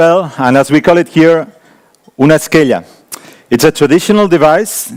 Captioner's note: speaking in foreign language